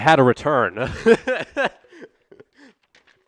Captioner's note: laughter